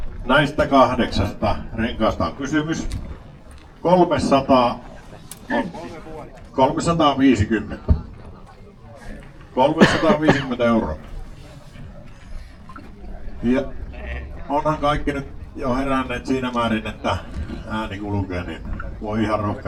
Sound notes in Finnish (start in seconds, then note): 8.9 naurua